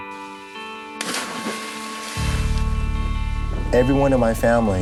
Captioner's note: water splashing